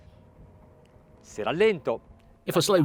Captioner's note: speaks in foreign language